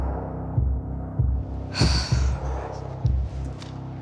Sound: sighs

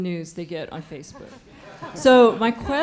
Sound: laughter

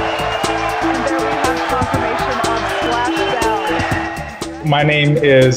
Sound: people applauding

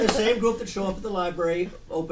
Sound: voiceover

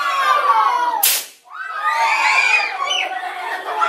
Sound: kids scream

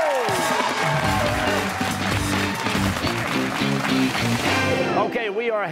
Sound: cheers and applause

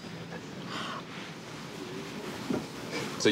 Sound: gasps

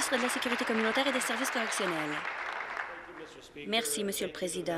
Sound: applause

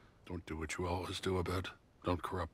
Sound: none

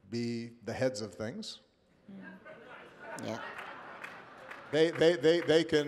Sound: laughter and applause

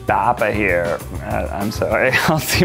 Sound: groaning

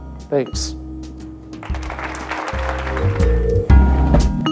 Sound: applause

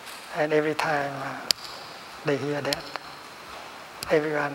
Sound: clapping

